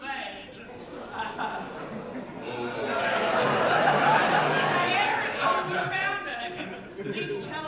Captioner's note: big audience reaction